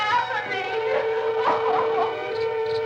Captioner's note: Barbra sobbing; suspenseful music